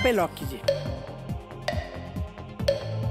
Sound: clock ticking

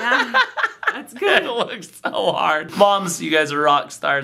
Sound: laughs

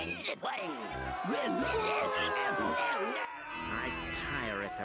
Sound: audience booing

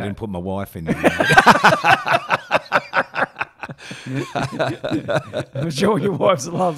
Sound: laughing

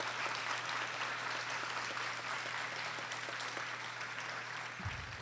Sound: audience applauding

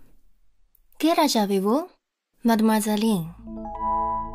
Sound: French

